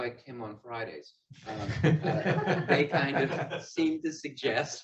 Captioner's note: all laughing